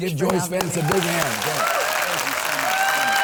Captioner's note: audience applauds